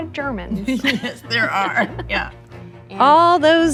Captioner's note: laughing